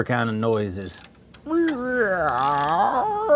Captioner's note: metal Clanking